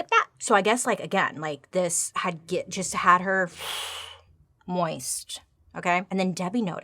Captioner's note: exhales